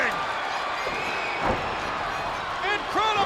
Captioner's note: spectators cheering and applauding